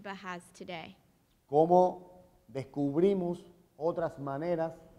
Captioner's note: speaking in Spanish